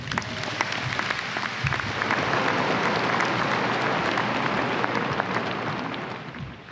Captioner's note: applause